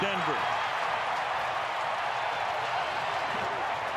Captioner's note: crowd cheering